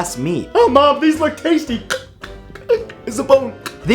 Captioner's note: chokes